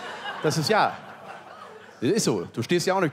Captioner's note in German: Lachen